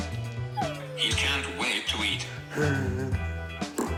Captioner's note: whines; chuckles